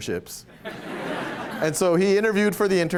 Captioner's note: laughter